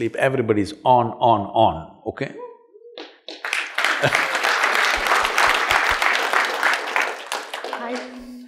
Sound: applause

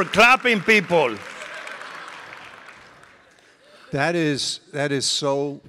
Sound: audience laughing and applauding

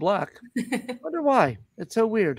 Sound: laughter

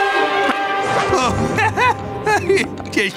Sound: chuckling

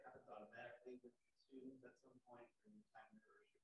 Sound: voice muffling

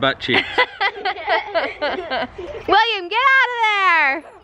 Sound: laughing

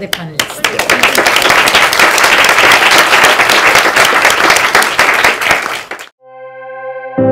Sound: applause

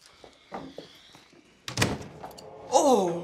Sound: door clicks shut

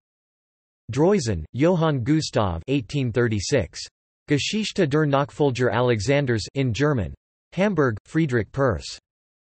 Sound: in German

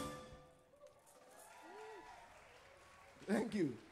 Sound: audience applauding

